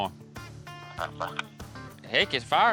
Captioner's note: on phone